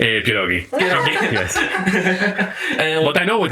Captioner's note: laughs